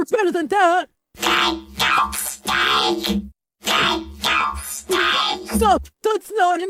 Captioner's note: screaming, out of tune